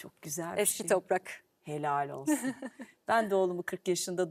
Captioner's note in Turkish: kahkaha